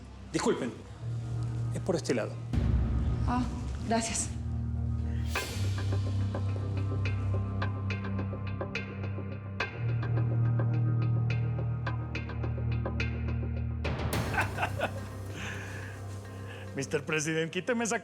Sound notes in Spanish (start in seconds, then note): 14.2 risas